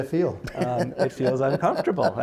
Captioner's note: laughter